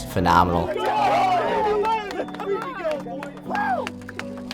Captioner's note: friends shouting